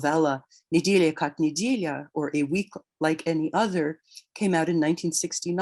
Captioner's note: speaks in Russian